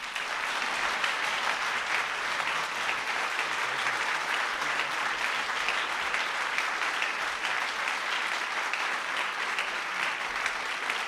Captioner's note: applause